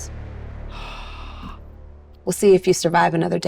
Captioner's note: Mayanna gasps